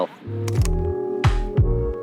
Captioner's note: camera clicking; upbeat music